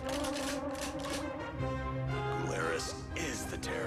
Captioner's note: weapons cocking